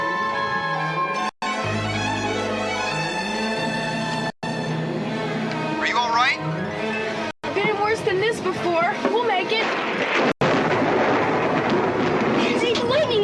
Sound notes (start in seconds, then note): 8.8 thunder rumbling